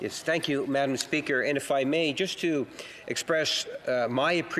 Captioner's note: speaking in French